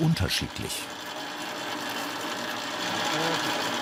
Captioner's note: loud machine rattling